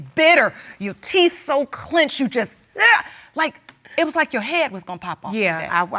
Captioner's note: exclaims